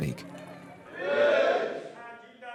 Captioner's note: men praying